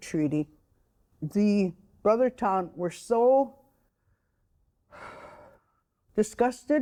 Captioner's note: sighing